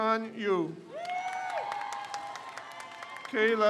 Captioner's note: crowd cheers